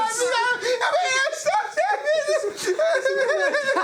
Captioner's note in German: heulend